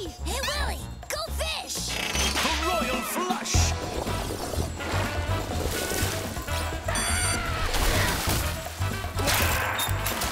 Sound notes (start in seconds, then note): 7.0 screaming